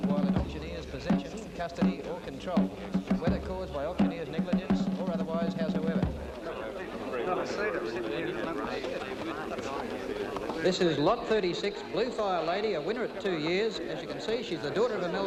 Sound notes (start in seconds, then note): 6.4 crowd murmuring